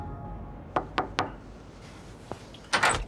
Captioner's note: knocking